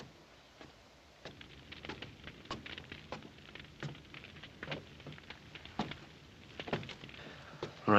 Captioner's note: footsteps climbing